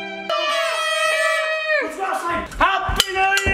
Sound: sad music; mouth horn sound

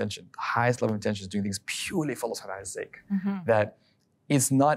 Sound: speaking Arabic

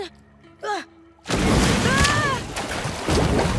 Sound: shrieking

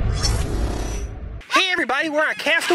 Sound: mechanical whooshing

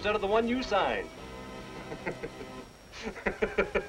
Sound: laughter

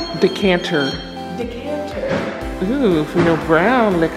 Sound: door clunks

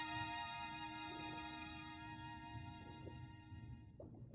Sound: underwater movement

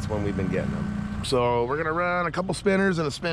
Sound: boat engine running

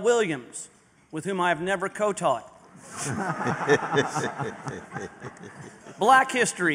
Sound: laughter

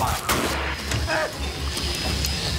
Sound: exploding; gasps

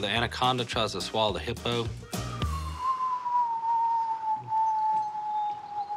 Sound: imitating bomb falling whistle

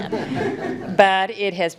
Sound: attendees chuckling

